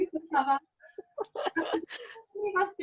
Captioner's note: laughing